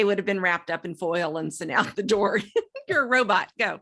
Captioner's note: laughs